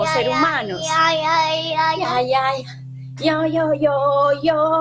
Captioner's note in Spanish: tararean una canción